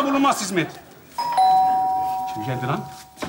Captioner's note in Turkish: Zil çalar